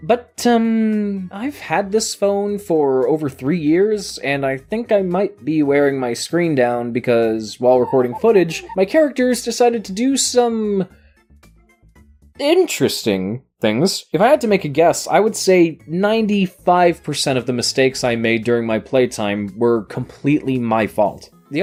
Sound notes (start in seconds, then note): 7.8 Ed, Edd n Eddy window wiping sound effect